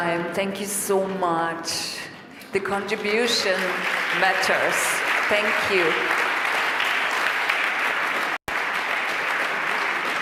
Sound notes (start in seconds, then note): 6.7 applause